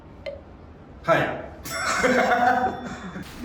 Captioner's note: evil Laughs